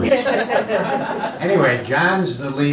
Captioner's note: laughing